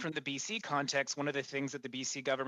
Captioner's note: speaking FRENCH